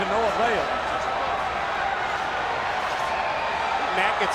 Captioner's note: audience cheering